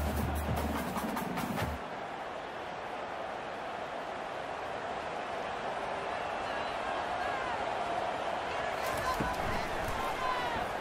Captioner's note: crowd cheering